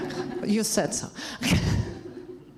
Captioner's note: laughs